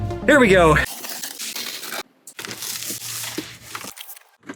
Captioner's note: box cutter scraping